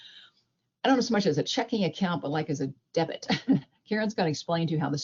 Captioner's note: chuckles